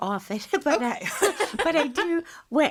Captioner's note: laughing